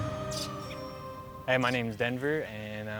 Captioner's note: birds chirping